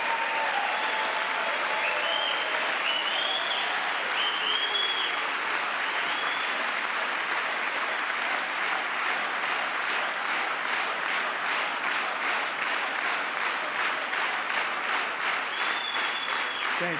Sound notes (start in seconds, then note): 5.0 cheering; 8.5 applause